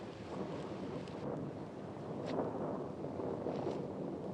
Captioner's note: thunder continues rumbling